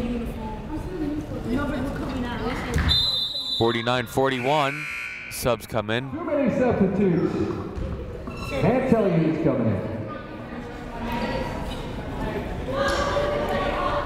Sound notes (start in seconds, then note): 2.8 whistle blowing; 3.4 buzzer sounding